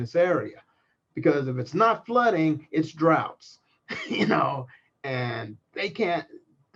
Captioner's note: laugh